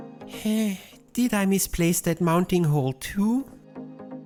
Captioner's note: sigh